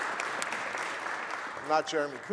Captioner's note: applause